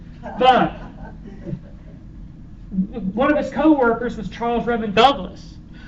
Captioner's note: laughter